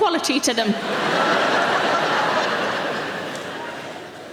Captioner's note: audience laughing